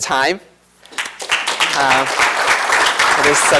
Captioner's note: applause